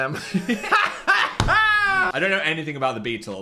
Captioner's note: both laughing